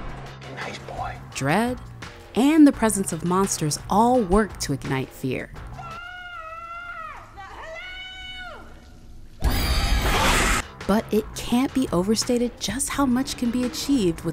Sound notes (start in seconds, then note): 1.5 voiceover; 5.8 woman screaming; 9.4 horror music